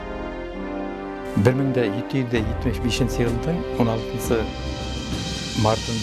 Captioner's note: in Bashkir